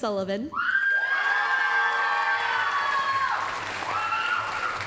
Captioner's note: applause, cheering